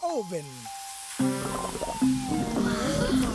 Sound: sizzling

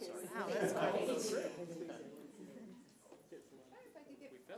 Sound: audience laughs

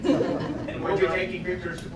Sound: laughter

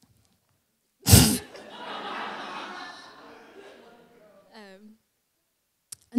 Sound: laughter

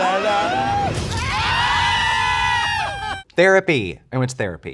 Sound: intense music; drag queens yelling

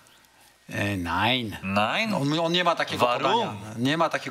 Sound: in German

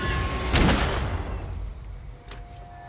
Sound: gunshot

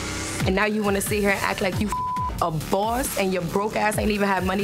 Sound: beep

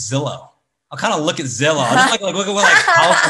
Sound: laughs

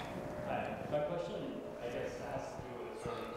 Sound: voiceover

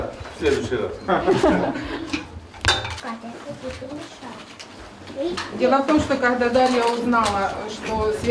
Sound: laughing

